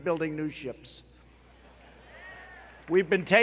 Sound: applause

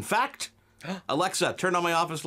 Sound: gasps

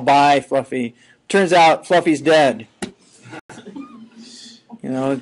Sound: scattered laughing

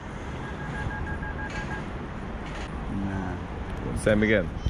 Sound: phone beeping

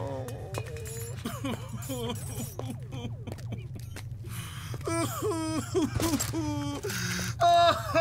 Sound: Glass crashing, Clarence sobbing

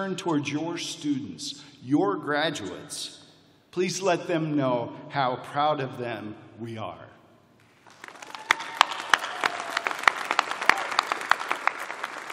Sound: cheers and applause

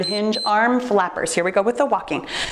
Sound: timer beeps

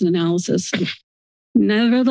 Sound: cough

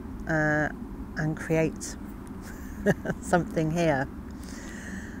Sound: laughing

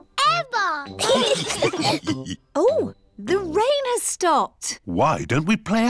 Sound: laughter

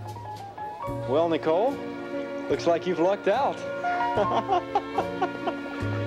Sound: laughing

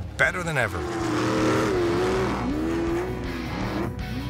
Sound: engines roaring

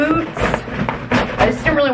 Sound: bag rustling

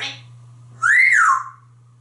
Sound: whistles

